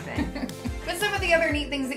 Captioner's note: laughs